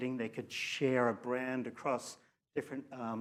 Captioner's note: none